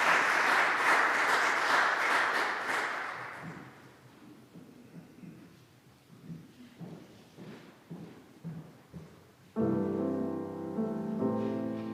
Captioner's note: applause